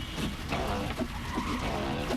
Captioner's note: squeaking, horns honking; tires screeching